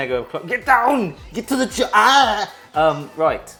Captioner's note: groans